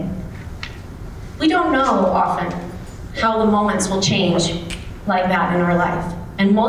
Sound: snaps

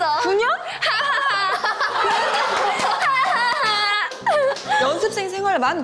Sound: hahaha

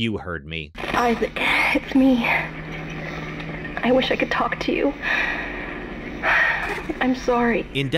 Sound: sighs

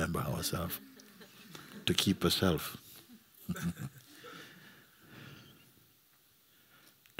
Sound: laughter

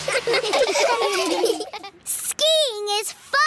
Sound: laughing

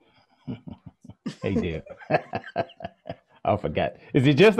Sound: laughs

